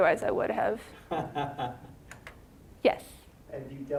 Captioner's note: scattered laughing